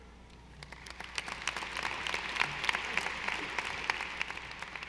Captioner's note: audience applauding